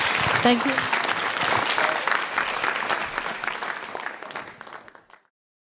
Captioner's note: applause